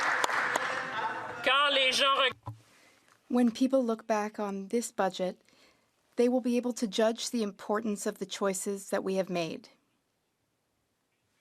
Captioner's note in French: applaudissements